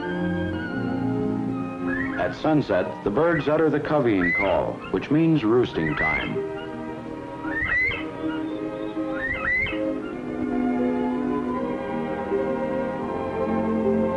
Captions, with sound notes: At sunset the birds utter the coveying call, which means roosting time. (bobwhite sounds)